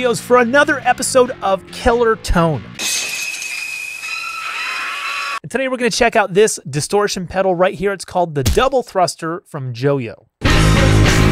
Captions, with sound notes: for another episode of Killer Tone. (glass shattering) And today we're gonna check out this distortion pedal right here, it's called the Double Thruster from Jojo. (upbeat music)